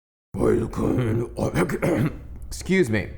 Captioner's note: mumbling in deep voice